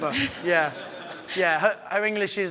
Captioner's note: audience laughs